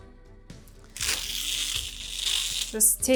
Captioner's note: tape ripping